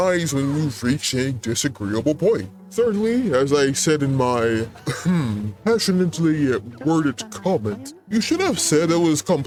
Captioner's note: ahem